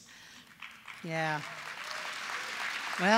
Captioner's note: applause